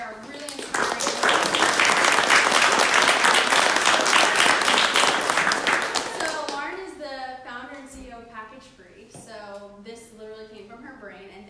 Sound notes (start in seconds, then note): 1.9 applause